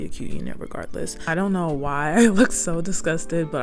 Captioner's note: laughs